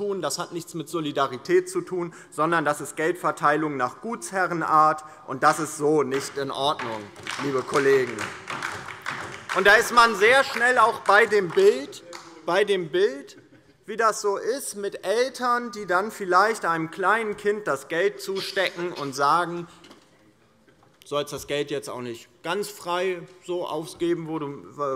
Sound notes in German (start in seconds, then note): 8.2 Beifall DIE LINKE und vereinzelt SPD